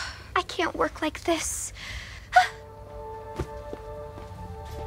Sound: sighs

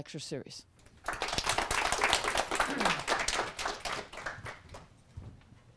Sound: audience applause

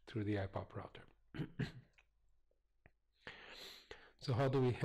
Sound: pause

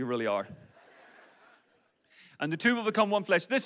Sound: audience laughs

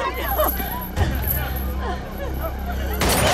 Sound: gunshot; woman breathing heavily; gunshot

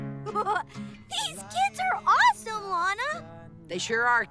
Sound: laughs

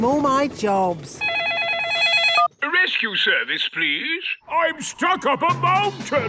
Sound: phone ringing

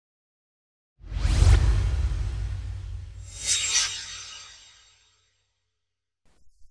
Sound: swoosh

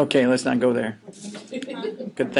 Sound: students chuckling

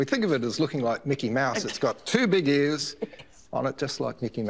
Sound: laughs

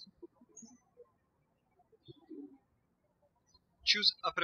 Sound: birds chirping

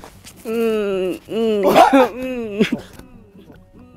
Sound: groaning ... Where does it hurt...?

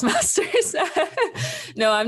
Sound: laughs

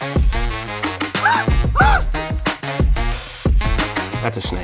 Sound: yelps

